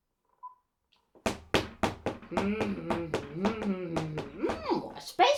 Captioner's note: footsteps; humming